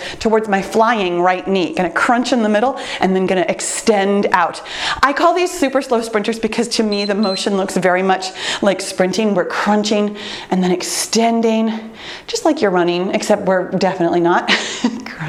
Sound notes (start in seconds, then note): 6.8 timer beeps; 14.5 chuckles